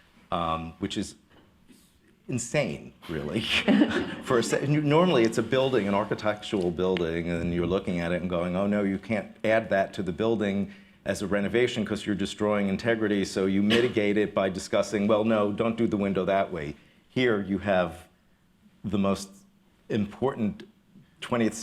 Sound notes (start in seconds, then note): 3.5 laughter